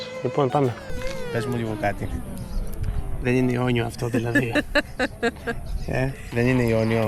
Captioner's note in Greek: γέλια